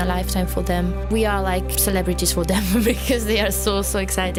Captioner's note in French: rires